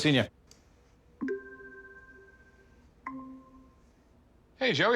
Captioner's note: computer chimes